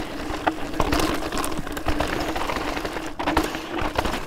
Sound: bike rattles

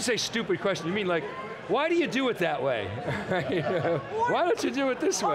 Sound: laughs

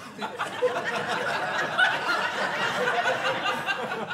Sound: audience laughing

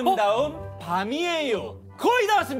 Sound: confident

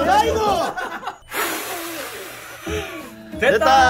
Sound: strongly exhale

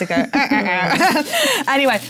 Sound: laugh; mimics trombone

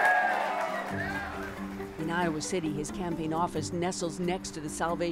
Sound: applause

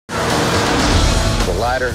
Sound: dramatic music; engines humming

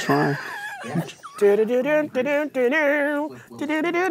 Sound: laughs; hums

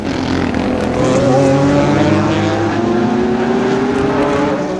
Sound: car engines

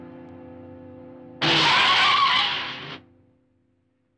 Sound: tire screeching

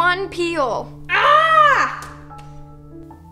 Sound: grunts

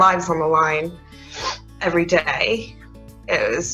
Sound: sniffles

